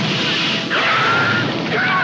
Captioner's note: flames flaring